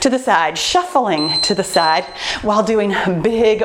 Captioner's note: timer beeping